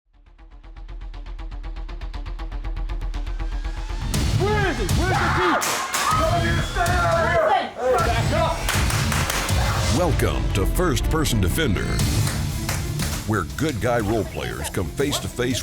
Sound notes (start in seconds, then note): 0.2 tense music; 4.4 screaming; 6.6 overlapping yelling; 9.0 gunshots